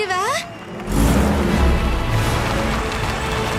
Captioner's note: truck engine revs